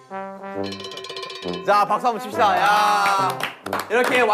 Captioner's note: tertawa lagi